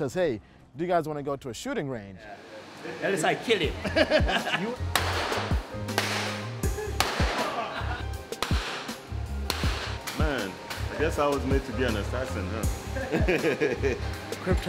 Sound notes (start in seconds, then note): 3.7 laughs; 5.1 gun shot blasts; 7.2 crowd laughs; 12.8 laughs